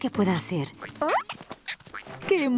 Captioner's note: caterpillar noises